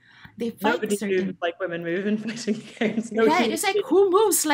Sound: laughs

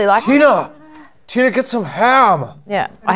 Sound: Napoleon Dynamite voice

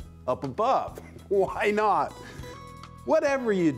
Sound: laughs

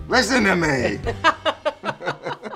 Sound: laughter

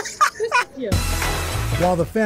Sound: laughter

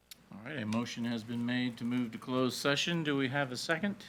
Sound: none

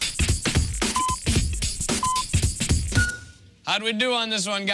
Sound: electronic beeping

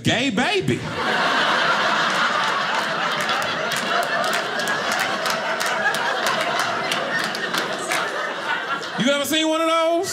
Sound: audience laughing

